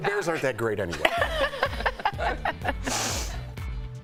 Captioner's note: laughter